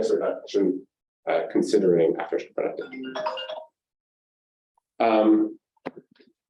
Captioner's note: cell phone ringtone